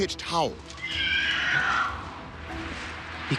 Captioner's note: screeching